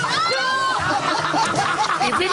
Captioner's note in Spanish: gritos